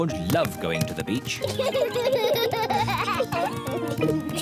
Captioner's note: both laugh